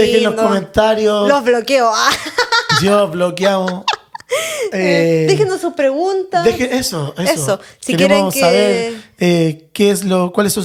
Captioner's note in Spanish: risas